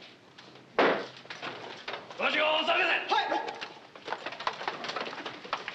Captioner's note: shouting in Japanese